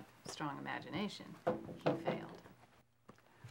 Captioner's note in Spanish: golpeteo